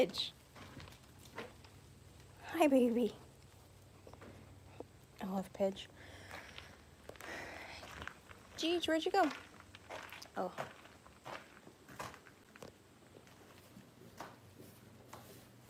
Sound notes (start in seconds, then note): none